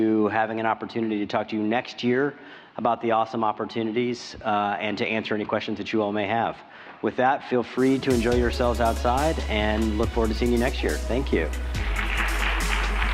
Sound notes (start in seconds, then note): 11.7 applause